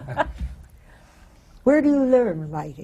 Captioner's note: laughs